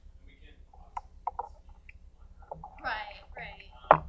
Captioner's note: microphone rustles